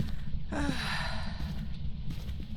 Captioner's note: sighing